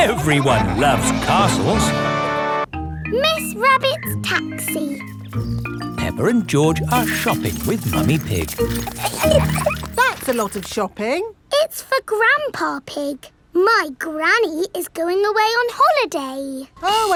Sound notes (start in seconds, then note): 9.5 laughing